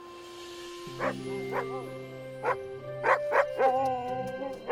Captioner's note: Buck barking